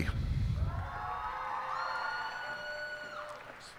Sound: cheers and applause

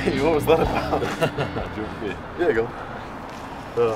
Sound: laughing

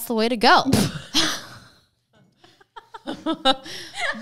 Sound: laughing

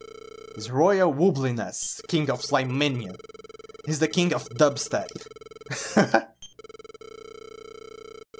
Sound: chuckles

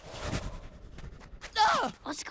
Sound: shrieking

